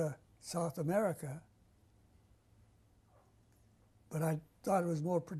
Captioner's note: pauses for 3 seconds